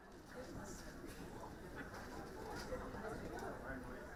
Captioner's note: people chattering